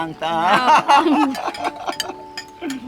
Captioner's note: everyone laughing